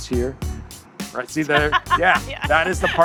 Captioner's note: laughs